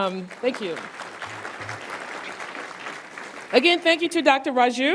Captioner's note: applause